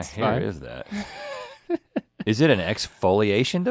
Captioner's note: Link laughing